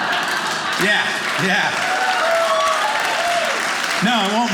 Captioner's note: audience cheering